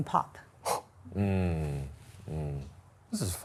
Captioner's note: exhaling sharply